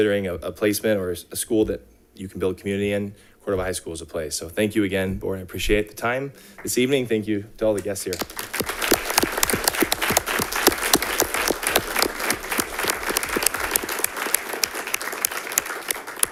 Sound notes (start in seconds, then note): 8.0 audience clapping